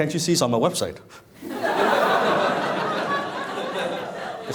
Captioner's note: laughing